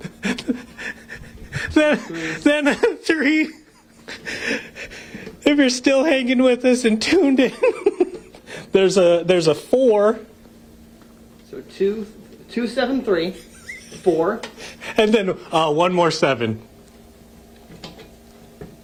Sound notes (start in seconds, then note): 7.4 laughter